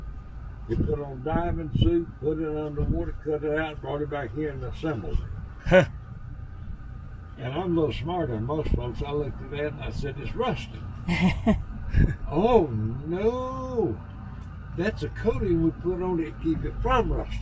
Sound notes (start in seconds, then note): 11.1 chuckles